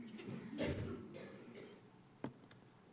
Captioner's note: subdued laughter